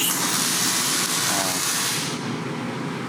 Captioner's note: welding machine sizzling